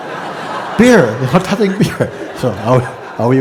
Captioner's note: laughter